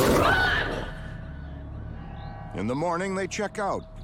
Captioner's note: growling